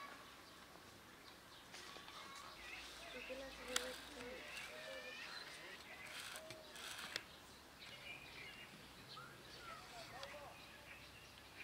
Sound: sound of nature

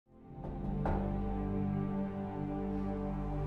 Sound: knock at door

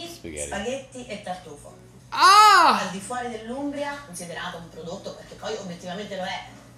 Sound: speaking Italian

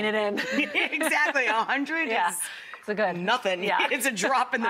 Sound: laughs

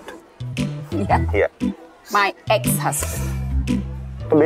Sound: laughs

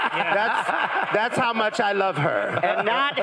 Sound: crowd and laughing

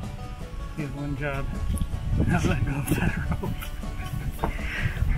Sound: laughing

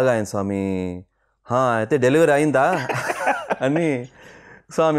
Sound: laughs

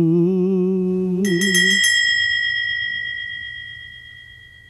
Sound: bell rings

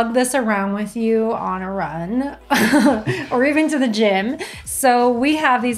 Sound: laughing

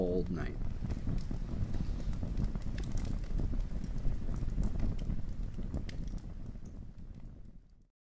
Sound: fire roars and fades to silence

